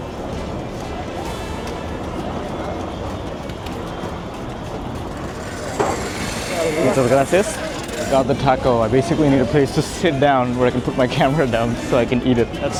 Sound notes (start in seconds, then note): 6.5 foreign language